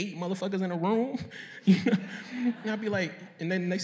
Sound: laughter

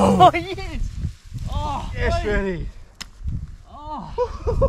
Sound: moans

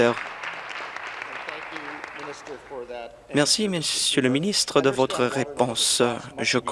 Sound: applause

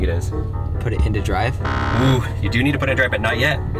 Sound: buzzer sound

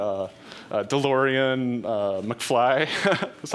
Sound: laughs

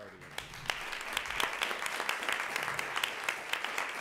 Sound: applause

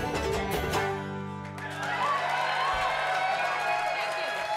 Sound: crowd cheering

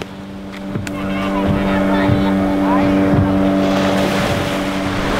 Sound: speedboat motor

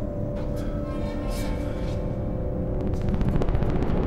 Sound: creaking

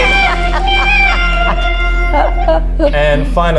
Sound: laughs

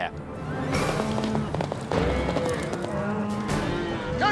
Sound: hoof beats

